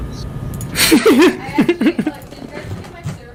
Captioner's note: laugh